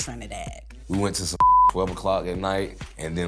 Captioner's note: beep